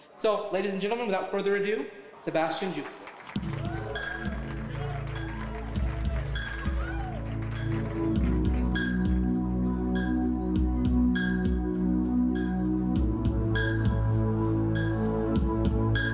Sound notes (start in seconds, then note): 2.8 audience applauding; 3.0 audience cheering; 3.4 mellow music